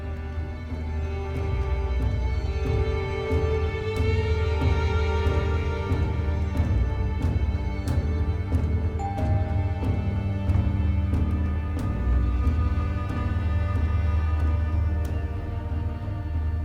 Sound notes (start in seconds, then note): 0.2 tense music; 9.0 doorbell rings; 12.0 birds chirping